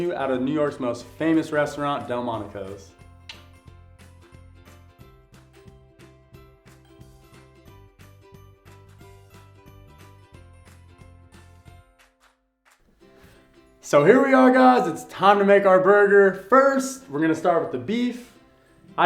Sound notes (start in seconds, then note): 3.3 tongue clicks; 4.5 soft music